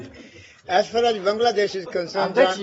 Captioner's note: laughter